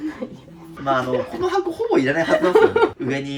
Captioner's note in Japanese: 笑い